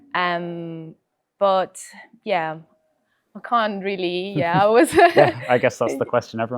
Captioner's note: laughs